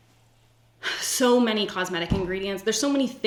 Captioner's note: sighs